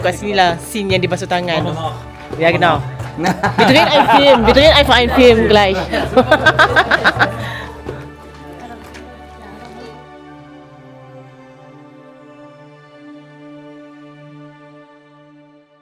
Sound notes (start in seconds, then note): 3.1 laugh